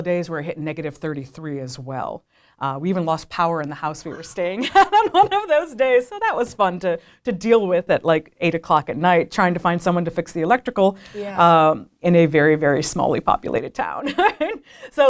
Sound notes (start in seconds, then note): 4.0 laughing; 14.4 laughs